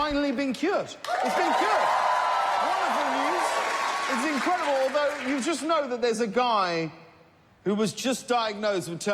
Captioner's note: applause